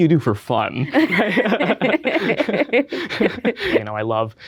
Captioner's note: both chuckle